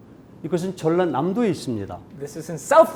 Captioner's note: speaking in Korean